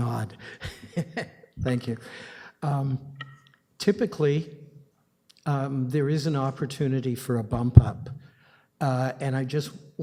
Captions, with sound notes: Thank you, I see a nod--[chuckles]--thank you. Typically, there is an opportunity for a bump up, and I